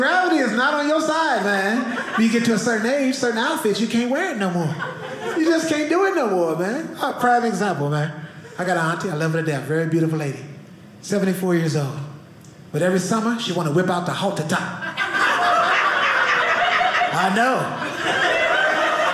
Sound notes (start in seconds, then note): 14.8 audience laughing